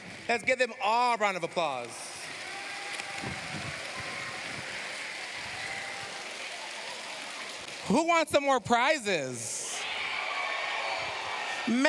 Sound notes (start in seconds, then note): 1.7 applause; 9.6 cheers, applause